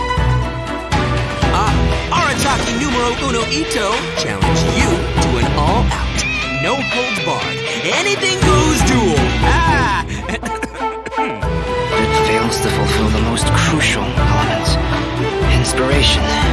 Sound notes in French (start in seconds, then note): 8.9 tousse